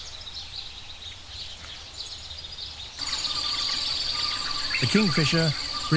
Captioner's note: birds chirping